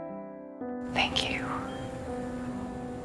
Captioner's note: voiceover